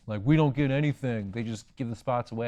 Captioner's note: in a lower voice